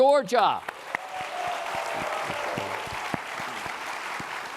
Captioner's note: applause